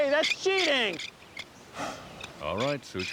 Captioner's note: blows